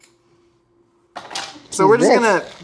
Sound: trays clatter

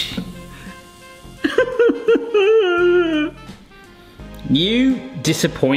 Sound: sobbing dramatically

